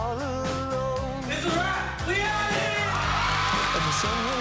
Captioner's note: cheering